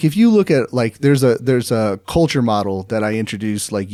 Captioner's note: none